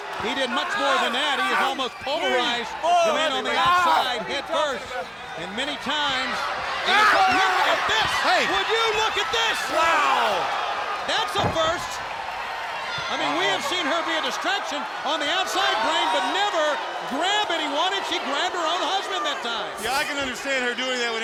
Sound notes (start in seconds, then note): 6.5 wrestlers grunting; 11.2 body thudding